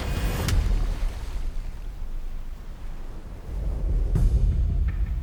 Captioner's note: splashing; dramatic music